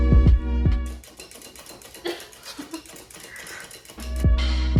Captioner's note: straining the corn in the background